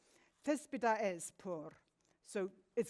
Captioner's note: speaks in foreign language